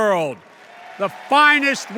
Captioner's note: applause